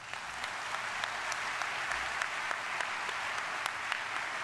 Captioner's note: audience applauding